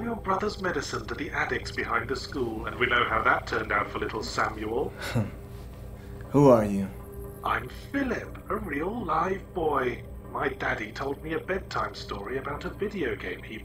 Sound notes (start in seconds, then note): 0.0 voiceover; 8.0 voiceover